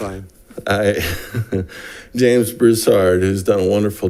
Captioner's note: laughs